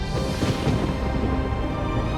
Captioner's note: thunder crashing